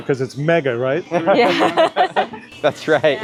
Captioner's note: all laughing